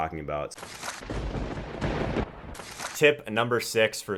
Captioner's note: thunder crackles